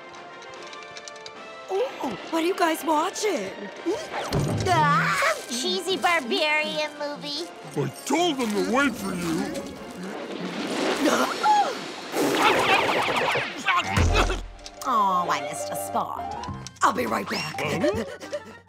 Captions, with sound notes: Ooh, what are you guys watching? Some cheesy barbarian movie. I told 'em to wait for you. [gasping] Oh, I missed a spot. I'll be right back. [panting]